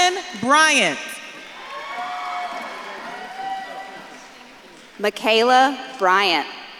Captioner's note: audience claps and cheers